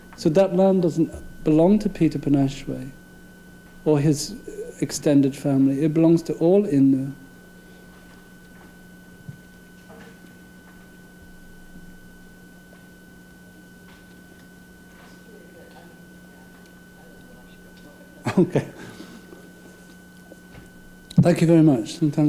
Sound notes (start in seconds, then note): 17.9 laughing